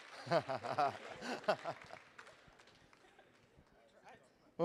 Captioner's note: laughing